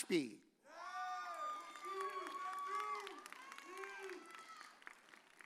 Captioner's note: audience cheers